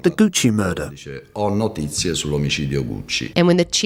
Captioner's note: speaking Italian